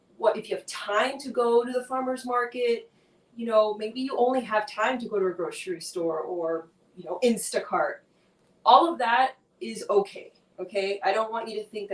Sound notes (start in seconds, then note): none